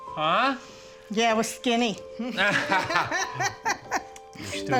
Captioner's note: both laughing